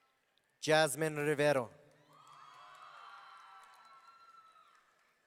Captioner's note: audience cheering